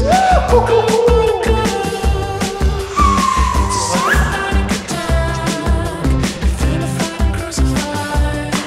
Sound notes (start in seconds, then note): 0.2 vocalizing; 3.2 player whistling; 5.3 cheerful music